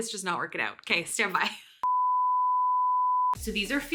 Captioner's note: tone sounding